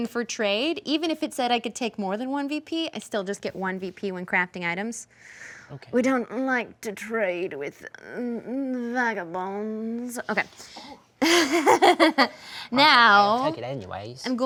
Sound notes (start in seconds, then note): 11.2 laughing